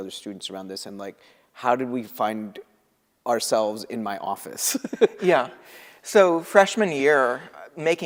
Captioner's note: laughter